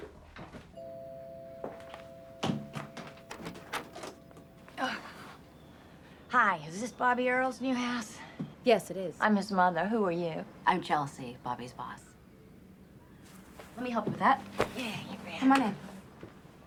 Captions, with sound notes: (doorbell ringing) - Hi, is this Bobby Earl's new house? - Yes, it is. - I'm his mother. Who are you? - I'm Chelsea, Bobby's boss. Let me help with that. - Yeah, you bet. - Come on in.